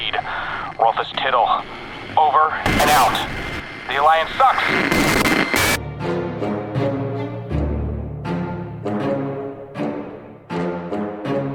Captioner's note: transmission fizzles out, transition music